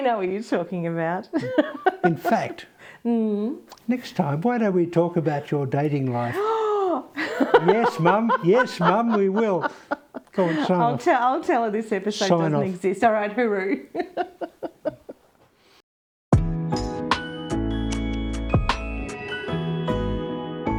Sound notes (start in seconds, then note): 16.8 laughs